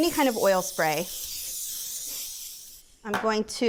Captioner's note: spray whooshing